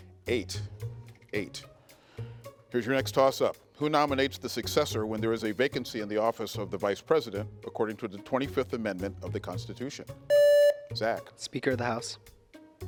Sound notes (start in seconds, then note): 10.3 contestant beeping